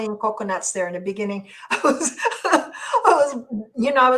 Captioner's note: laughs